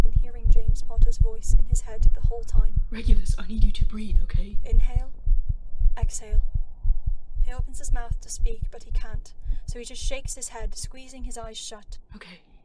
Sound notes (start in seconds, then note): 10.9 the heartbeat fades